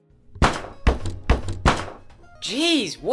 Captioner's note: aggressive knocking